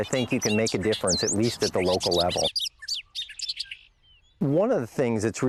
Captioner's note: birds chirping